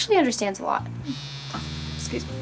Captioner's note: cellphone buzzing